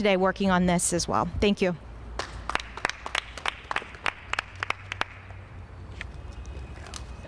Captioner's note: applause